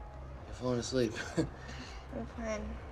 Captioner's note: chuckles